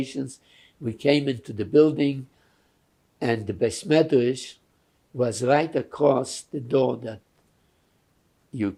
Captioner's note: non-english